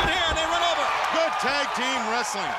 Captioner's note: crowd cheering